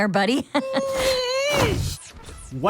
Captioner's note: whines